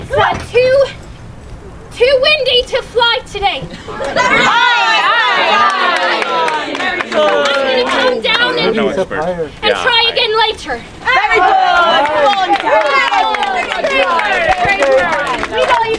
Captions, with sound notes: it's too windy to fly today. (people chattering) I'm gonna come down and and try again later. (audience cheering)